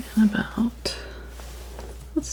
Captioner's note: scratching